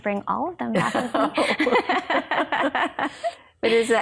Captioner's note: laughs